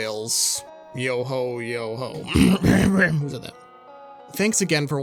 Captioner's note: clears throat